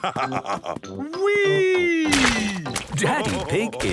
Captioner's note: splashes